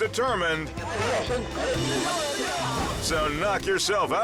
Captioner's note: prankster speaking foreign language